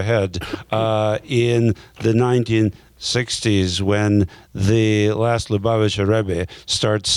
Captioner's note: speaking in a foreign language